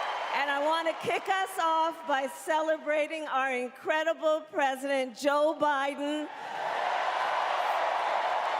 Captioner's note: cheering